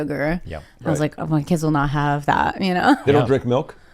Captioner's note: chuckles